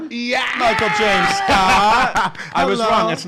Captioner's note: laughs